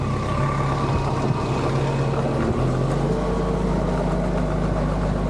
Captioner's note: wood clanking; vehicle rumbling